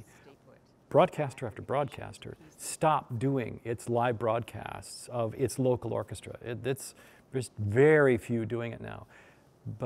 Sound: none

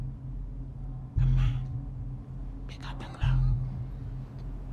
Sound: whispering

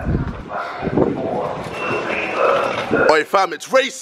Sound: machine beeping

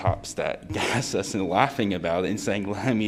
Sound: laughter

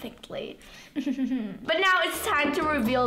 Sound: laughing

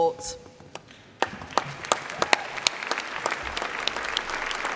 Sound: applause

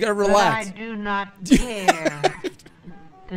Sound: laughs

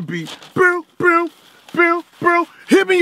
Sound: beatboxing continues

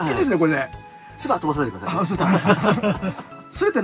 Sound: laugh

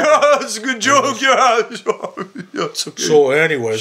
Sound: laughing

